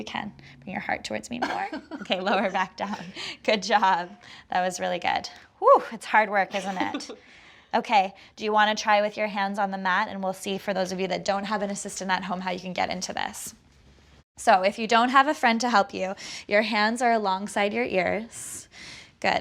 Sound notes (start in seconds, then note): 1.7 laughter; 6.6 laughs